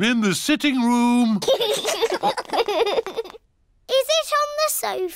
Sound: laughter

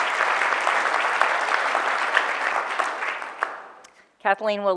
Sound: audience applause

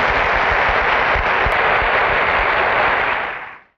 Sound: loud applause

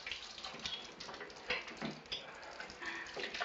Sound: giggles

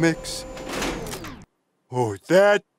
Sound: whirring

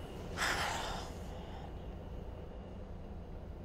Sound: Andrew exhales

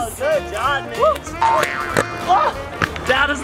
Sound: boing sound effect

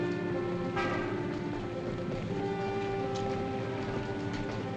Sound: horn honking

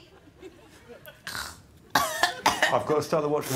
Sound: snorts; coughs

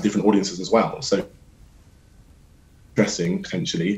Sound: connection lost, silence

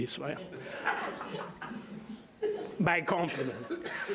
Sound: audience laughing

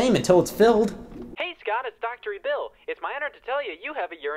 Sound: telephone

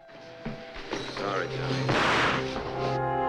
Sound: gunshot

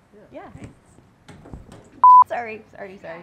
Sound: thud

